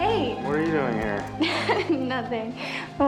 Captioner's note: laughs